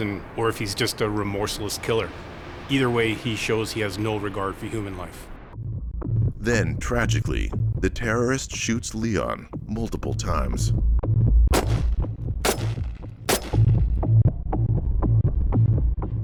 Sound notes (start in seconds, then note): 11.5 gun firing; 13.5 tense music